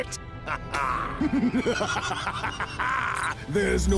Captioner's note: more insane laughing